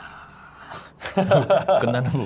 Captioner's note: laughing out loud